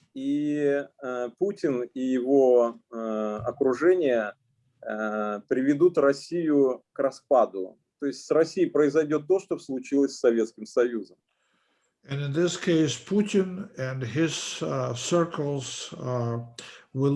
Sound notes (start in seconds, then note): 0.6 speaking Russian language